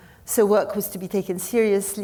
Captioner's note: none